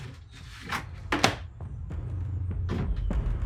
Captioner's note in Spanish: golpes del diario